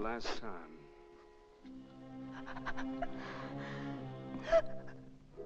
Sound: Madelon whimpers

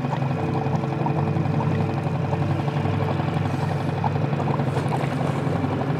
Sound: motor rustling; tranquil music

